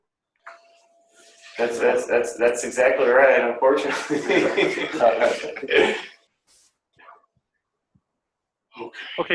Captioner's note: laughing